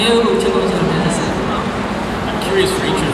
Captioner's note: speaking Korean